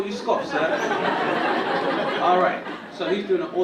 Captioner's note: audience laughing